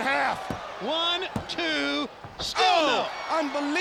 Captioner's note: hand pounding